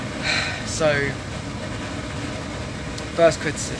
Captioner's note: sigh